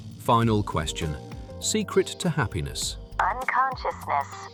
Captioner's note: mechanical voice